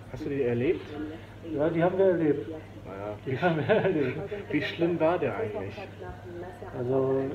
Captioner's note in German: Er lacht